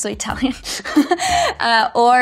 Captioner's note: speaker chuckles